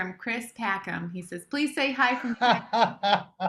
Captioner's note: laughs